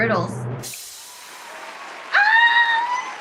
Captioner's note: applause